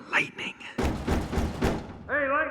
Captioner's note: knocking